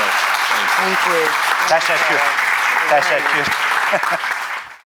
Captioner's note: audience clapping